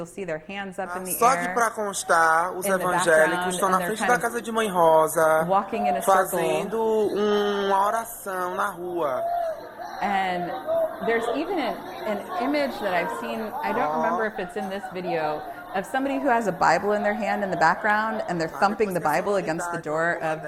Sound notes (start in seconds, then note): 2.1 speaking portuguese